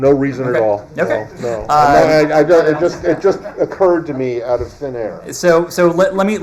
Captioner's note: laughter